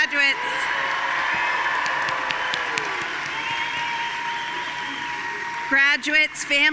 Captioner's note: audience cheering and applauding